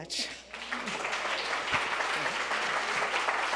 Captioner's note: crowd clapping